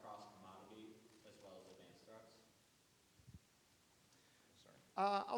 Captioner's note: speaking faintly